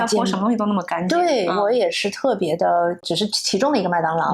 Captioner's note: surprised